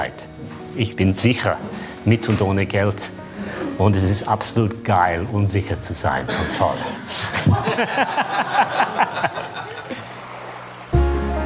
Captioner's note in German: Lachen